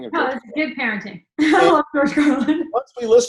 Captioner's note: laughs